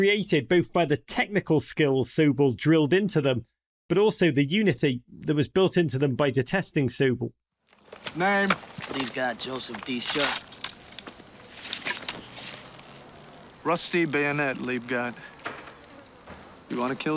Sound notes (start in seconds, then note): 12.4 gun clicking, rattling